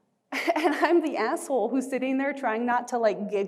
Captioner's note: chuckling